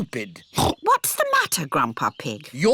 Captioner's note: oinks